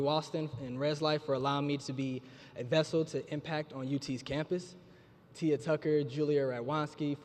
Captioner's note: none